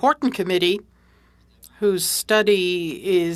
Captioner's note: speaking French